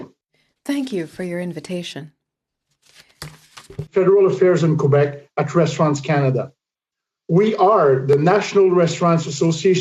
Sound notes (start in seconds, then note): 2.9 speaking French